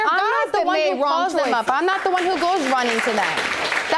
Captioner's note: audience applauding